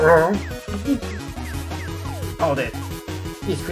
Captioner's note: giggles